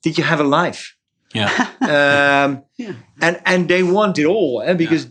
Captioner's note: chuckles